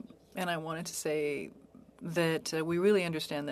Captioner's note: speaking French